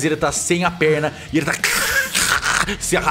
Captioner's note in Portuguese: cruuch